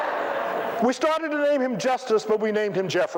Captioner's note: laughter